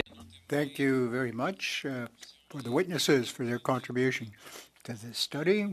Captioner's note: speaking French